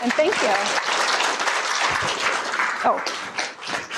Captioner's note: applause